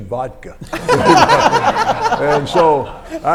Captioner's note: everyone laughs